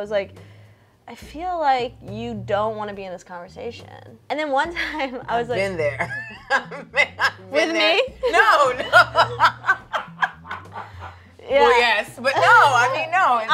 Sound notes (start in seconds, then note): 5.7 laughs; 8.9 laughs